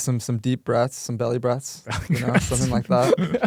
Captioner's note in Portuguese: risos